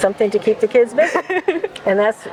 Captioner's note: laughs